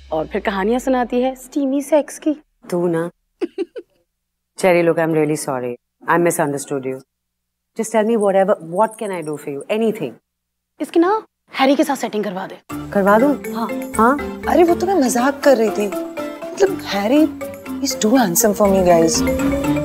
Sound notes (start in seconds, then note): 3.4 giggling